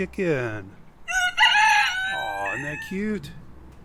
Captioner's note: chicken squawks